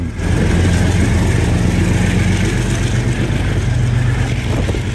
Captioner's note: train engine roaring